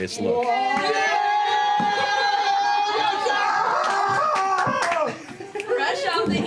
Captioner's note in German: Gejubel